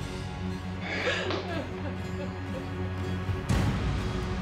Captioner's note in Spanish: sollozos